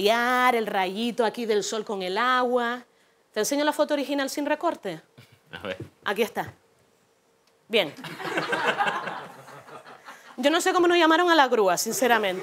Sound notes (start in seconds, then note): 8.0 laughs